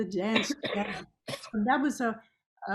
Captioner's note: coughs